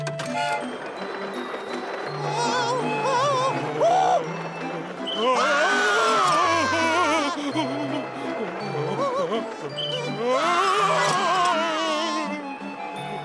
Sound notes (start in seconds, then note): 5.2 screaming; 7.0 moaning